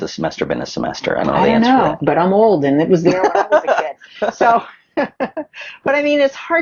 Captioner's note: both laughs